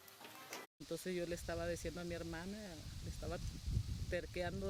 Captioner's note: non-english speech